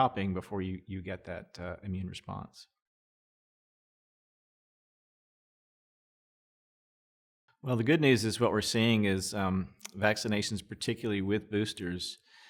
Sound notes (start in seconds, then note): 3.0 silence